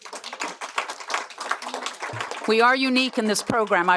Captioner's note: applause